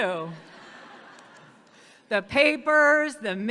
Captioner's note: audience laughing